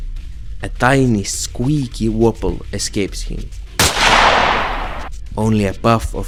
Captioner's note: gun shot effect